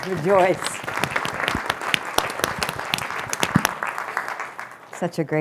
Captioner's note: applause